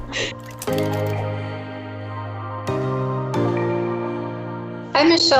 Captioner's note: upbeat music; keyboard typing